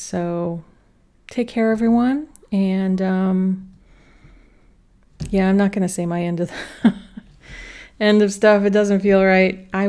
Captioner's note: laughter